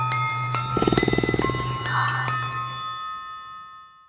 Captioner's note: purring